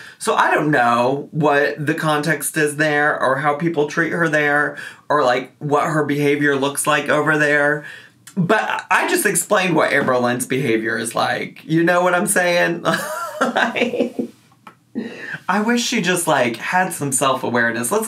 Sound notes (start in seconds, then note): 12.9 laughing